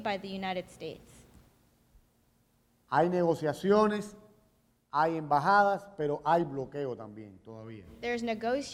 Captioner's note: speaking in Spanish